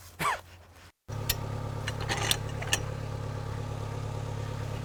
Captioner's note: laughs; metal clanking